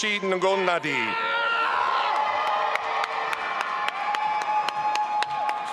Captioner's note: audience applauding